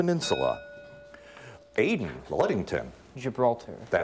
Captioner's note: bell rings